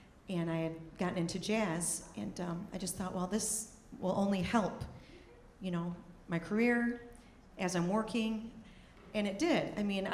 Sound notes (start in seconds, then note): none